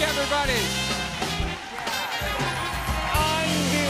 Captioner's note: cheers and applause